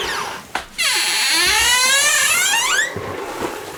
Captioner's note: creeky door